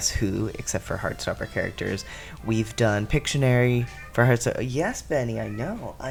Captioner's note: meow; Benny continues meowing